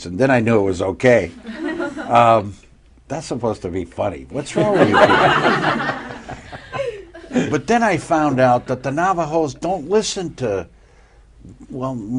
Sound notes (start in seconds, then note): 4.5 laughter